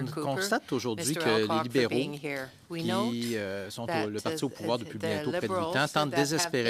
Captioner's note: speaking French